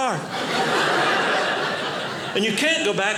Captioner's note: audience laughing